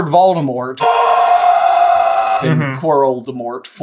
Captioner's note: screeeeeeeeeeeeeeeeeeeeeeeeeeeeeeeeeeeeeeeam